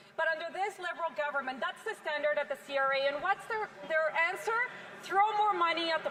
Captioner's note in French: voix de l'interprète